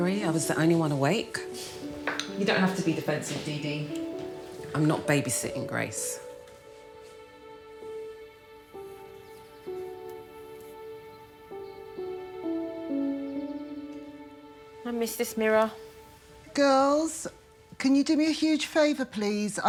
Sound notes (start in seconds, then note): 6.3 birds chirping; 6.3 sentimental music